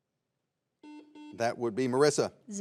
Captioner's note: buzzer beeps